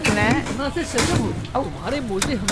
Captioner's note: tools banging; ice cracking